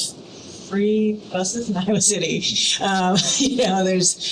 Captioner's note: laughing